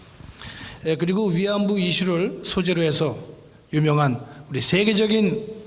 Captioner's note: speaking in foreign language